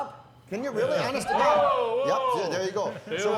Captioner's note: whooping in surprise